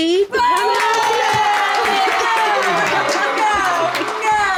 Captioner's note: cheering sound effect